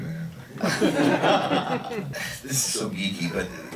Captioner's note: crowd laughs